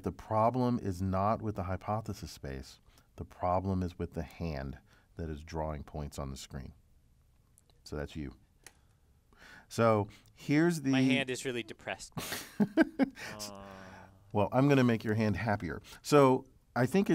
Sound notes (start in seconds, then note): 12.2 laugh